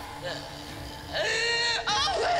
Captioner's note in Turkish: Ağlıyor